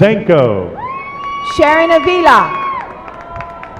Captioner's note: applause